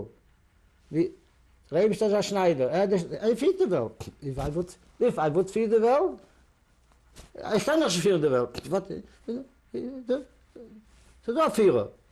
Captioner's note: non-english